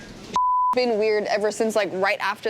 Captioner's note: beep